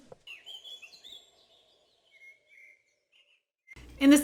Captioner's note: birds chirping